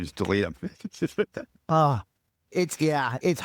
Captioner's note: laughing